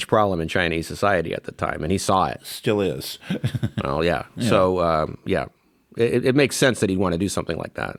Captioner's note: laughs